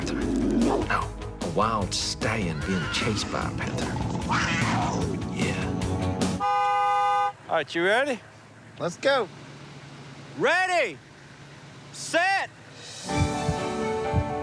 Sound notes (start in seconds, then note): 2.5 panther growls; 6.3 horn honks